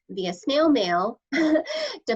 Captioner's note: laughter